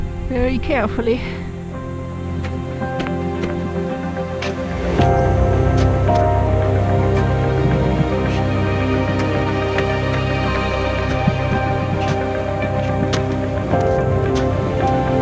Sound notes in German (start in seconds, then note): 1.9 Knirschen im Schnee; 6.3 Spannungsmusik; 10.1 Schritte im Schnee